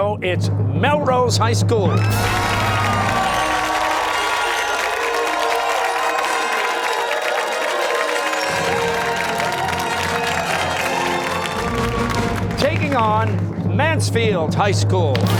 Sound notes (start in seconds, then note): 2.5 fanfare; 6.4 cheers and applause